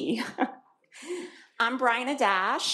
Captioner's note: laughs